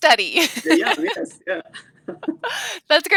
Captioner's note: laughs